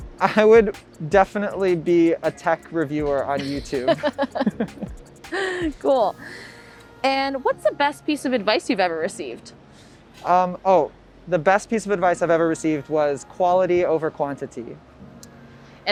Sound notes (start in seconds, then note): 3.4 both laugh